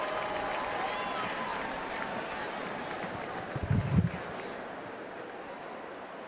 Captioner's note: applause